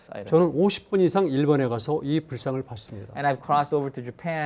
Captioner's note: speaking in Korean